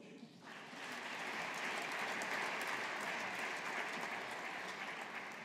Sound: audience applauding

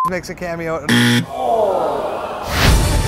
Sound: buzzer, groans

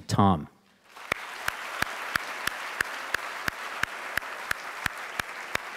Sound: audience cheering and applauding

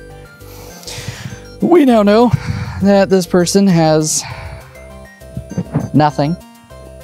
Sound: exhaling

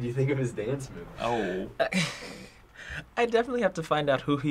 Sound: chuckling

